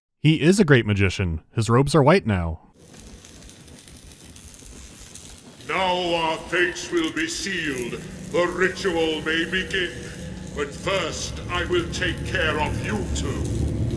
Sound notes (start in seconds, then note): 2.8 electric crackling